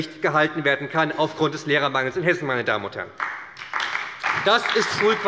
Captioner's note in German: Beifall bei der SPD